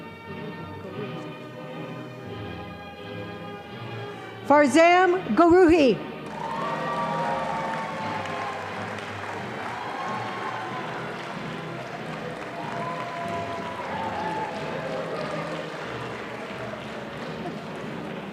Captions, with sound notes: - Forzam Gugovi. (audience applauding)